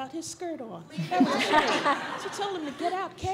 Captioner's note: audience laughs